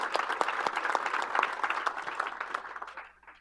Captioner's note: applause